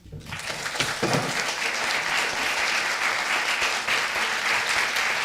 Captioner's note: audience applauding